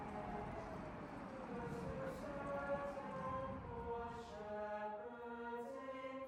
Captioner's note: distant siren wailing